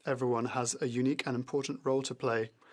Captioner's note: speaking French